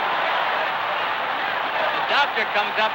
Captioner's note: crowd exclaiming